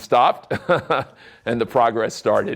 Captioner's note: chuckling